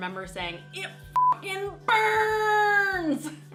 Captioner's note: beep